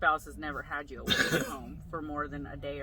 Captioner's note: coughs